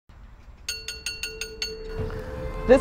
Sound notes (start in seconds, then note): 0.6 sound: tink, tink, tink